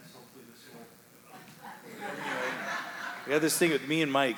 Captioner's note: audience laughing